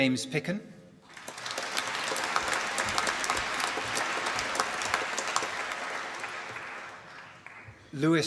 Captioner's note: applause